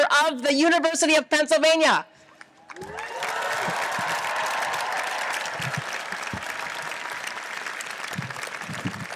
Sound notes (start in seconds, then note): 2.6 audience applauds and cheers